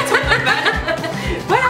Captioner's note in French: rires